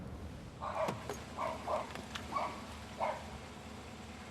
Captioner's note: dog barking